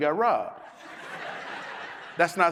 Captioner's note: audience laughs